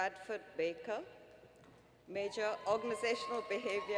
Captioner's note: applause